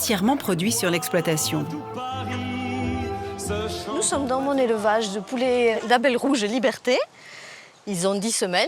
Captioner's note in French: chant